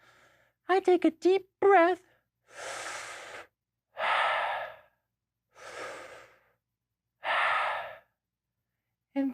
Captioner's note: deep breathing noises